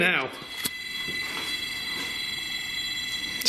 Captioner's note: beeping